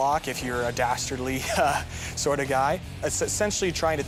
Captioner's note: laughs